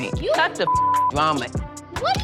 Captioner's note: beep